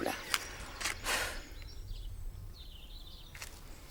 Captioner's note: sighs